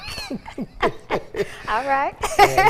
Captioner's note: laughing